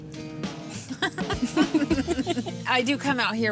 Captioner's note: laughter